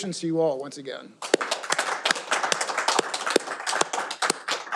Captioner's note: all applauding